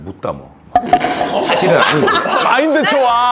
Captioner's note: foreigners laughing